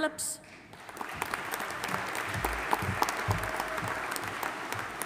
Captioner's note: audience applauding